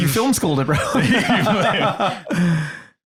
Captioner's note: laugh